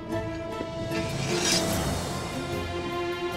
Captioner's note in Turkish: Kılıç sesi